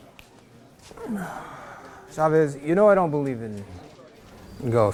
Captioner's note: fingers snapping; sighing